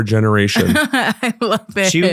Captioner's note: laughing